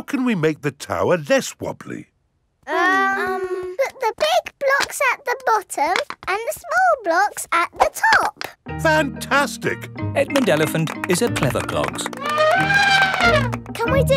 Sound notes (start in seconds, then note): 2.7 children hesitating; 11.9 trumpets